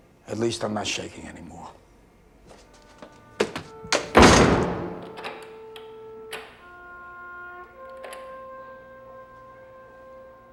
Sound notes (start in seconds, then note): 3.8 door Locks